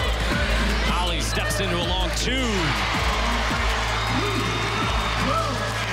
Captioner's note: crowd cheers